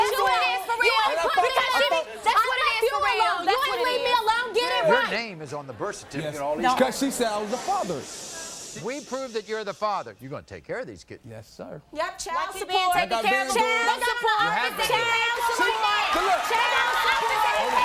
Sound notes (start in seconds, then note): 7.4 shushing